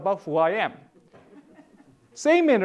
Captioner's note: audience laughing